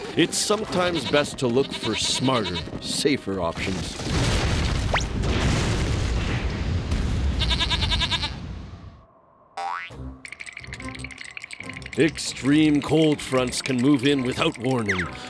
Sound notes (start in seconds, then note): 7.4 bleats; 10.0 both shivering